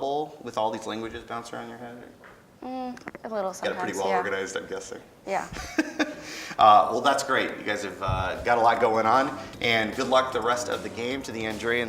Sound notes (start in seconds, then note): 5.4 laughing